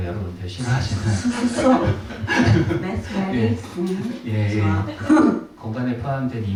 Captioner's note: laughter